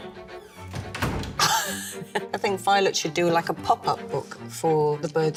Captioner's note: laughing